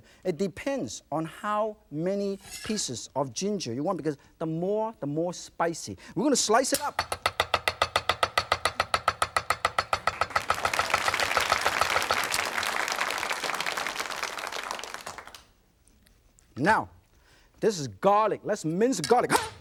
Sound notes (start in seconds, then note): 7.5 fast knife chopping; 10.0 audience applauds